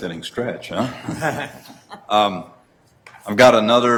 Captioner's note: laughing